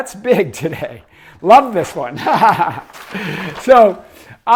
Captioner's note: laughs